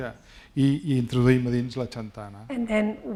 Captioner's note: speaking spanish